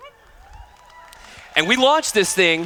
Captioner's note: applause